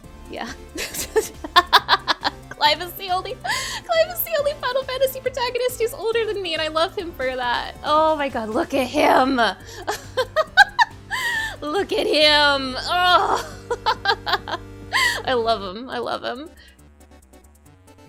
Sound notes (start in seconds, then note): 0.8 laughing; 3.4 gasp; 9.8 laughing; 13.1 laughing